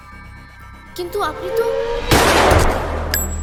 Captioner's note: gun Fired